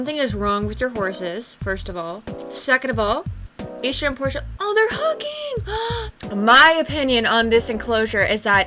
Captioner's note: gasp